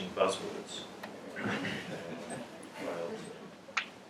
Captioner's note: laugh